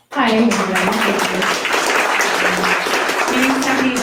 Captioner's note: audience applause